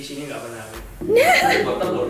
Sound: mocking laughter

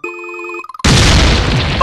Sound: explosion

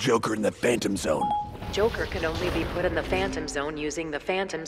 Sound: ding

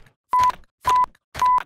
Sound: beep

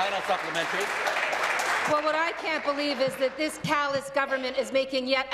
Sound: applause

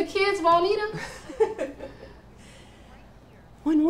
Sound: laughter

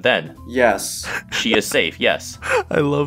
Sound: laughing in the background

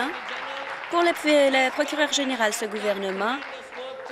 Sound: applause

